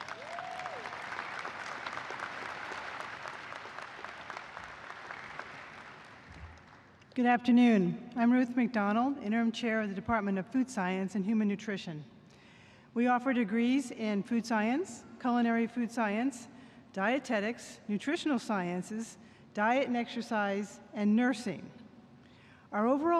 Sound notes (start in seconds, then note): 3.3 applause